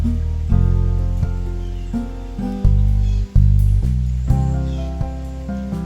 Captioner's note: original audio of it raining with birds chirping